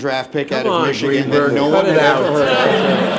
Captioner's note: laughter